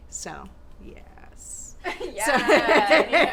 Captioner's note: laughing